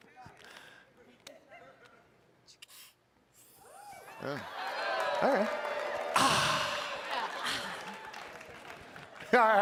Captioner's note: laughter